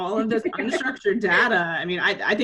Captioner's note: laughs